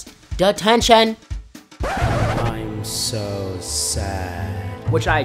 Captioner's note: record scratch; sad music plays